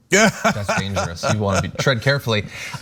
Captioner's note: laugh